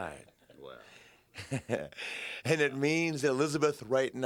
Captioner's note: laughs